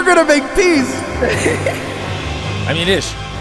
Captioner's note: laughing